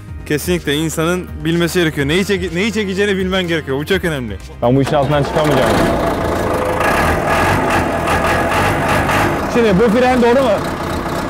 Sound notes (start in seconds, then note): 4.8 engine starts; 6.5 engine revving